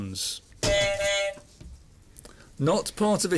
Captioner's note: buzzer